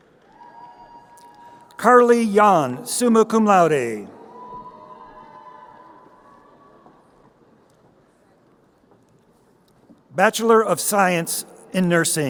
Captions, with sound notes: Carly Yann, summa cum laude. (crowd cheering) Bachelor of Science in Nursing: